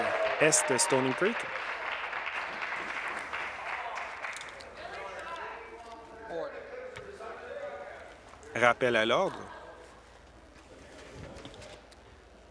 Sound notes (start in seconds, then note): 0.0 applause; 2.5 cheering